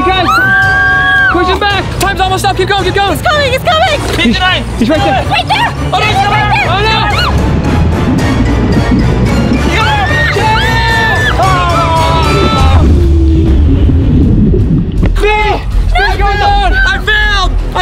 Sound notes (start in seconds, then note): 7.7 upbeat music; 9.8 screaming